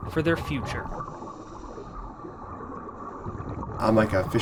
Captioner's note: water gurgling